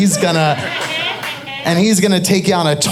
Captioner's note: audience laughing